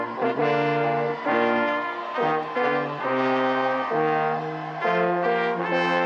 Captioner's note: audience applauding and cheering